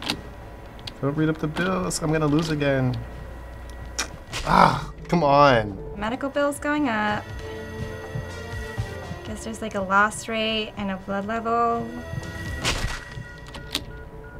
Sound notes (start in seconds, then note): 12.5 smack!